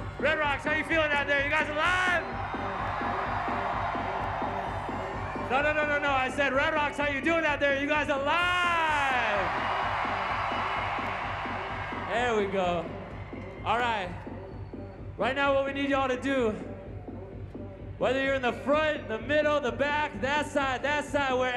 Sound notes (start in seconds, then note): 3.8 crowd cheers; 9.2 crowd roars